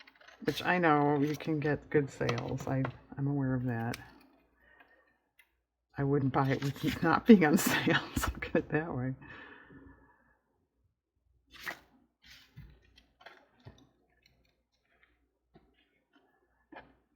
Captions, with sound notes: which i know, you can get good sales i'm aware of that, i wouldn't buy (laughs) not being on sale so look at it that way